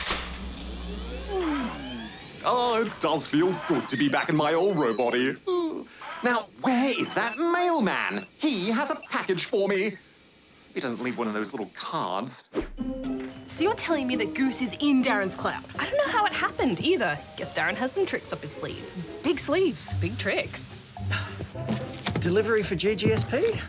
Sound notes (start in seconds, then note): 0.0 power switch clunks; 0.0 electricity crackles; 5.5 sighs; 21.0 sighs